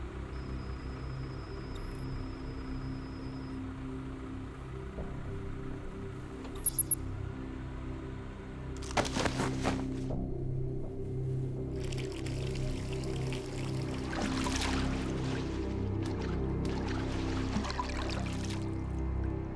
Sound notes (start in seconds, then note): 1.5 scanner whirring; 6.6 monitor whirring; 11.6 soft tense music continues; 11.7 water trickling